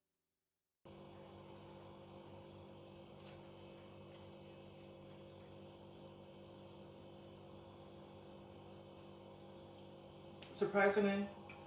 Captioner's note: extended contemplative chewing